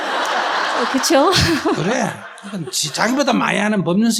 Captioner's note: audience Laughter